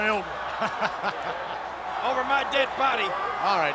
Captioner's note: laugh